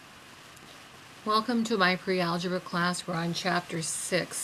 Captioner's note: voiceover